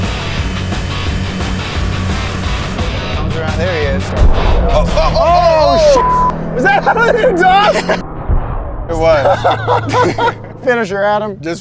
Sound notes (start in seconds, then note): 5.9 beep; 8.9 laughs